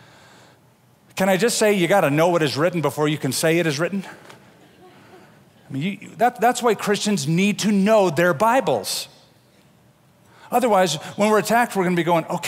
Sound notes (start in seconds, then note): 4.6 laughter